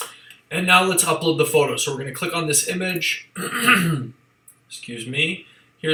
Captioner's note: clears throat